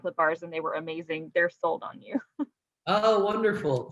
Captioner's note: giggles